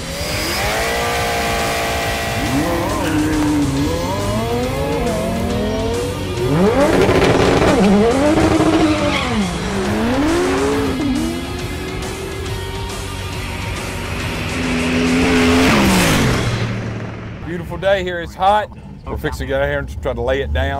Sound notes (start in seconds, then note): 0.0 car engine revving; 2.8 car engines roaring; 6.7 car engine revving; 10.2 car engines roaring; 14.8 car engine roaring